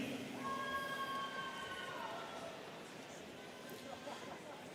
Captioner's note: students cheering